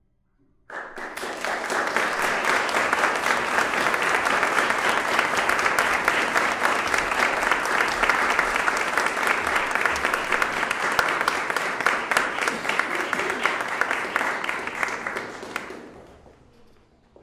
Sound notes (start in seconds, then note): 2.4 applause